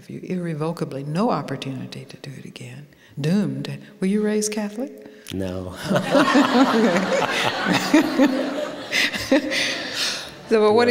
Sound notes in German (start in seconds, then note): 5.7 Lachen